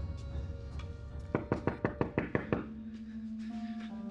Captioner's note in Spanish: toques en la puerta